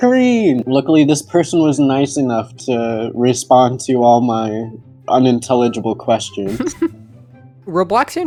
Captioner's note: laughs